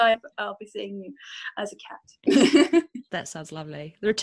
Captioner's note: laughs